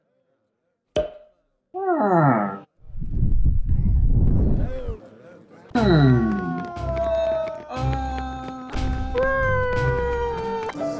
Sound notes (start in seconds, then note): 2.8 wind; 5.9 screaming